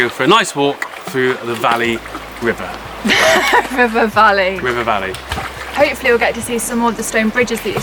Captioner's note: laughing